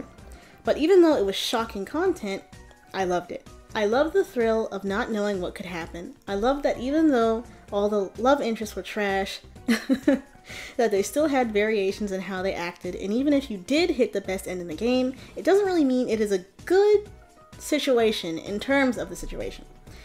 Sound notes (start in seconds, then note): 9.7 chuckles